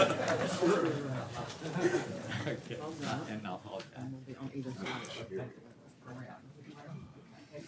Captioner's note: laughter